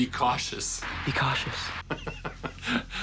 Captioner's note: laughs